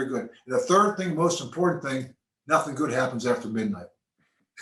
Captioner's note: laughs